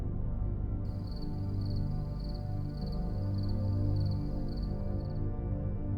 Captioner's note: crickets chirping; atmospheric music continues